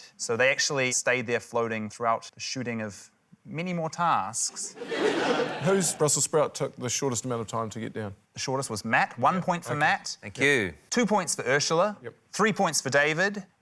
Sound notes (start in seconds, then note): 4.6 laughter